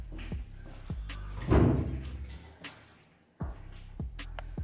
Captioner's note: door creaks